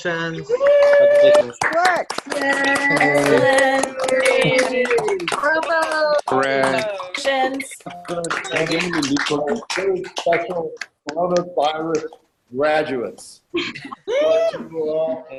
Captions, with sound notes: >> Nice work. >> Yay. [ Applause ]